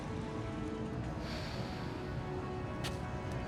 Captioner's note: sigh